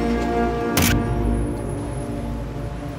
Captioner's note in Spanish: Sonido de cámara